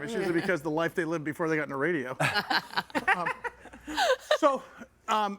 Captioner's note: guests laughing